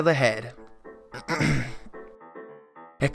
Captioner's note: clears throat